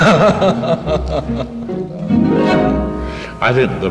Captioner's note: laughing